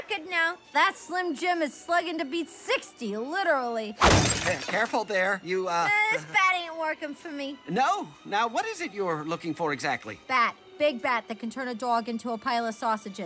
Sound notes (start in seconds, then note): 4.0 glass shatters